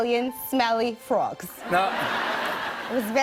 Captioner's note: laughter